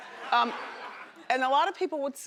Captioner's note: laughing